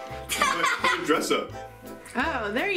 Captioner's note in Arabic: ضحك